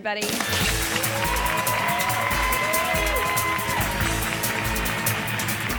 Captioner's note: audience cheers and applauds